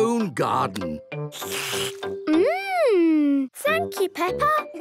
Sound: slurps

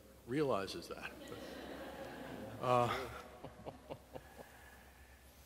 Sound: audience laughing

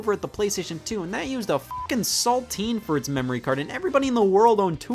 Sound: beep

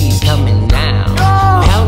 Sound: grunt of pain

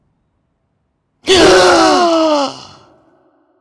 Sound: a loud gasp

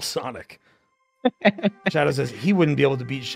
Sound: laughs

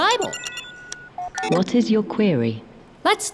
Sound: beeping

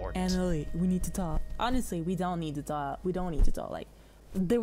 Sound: mocking; sassy

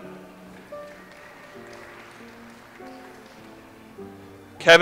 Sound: audience applauds

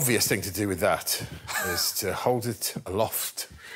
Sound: chuckles

